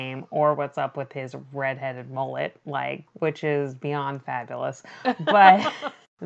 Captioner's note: laughs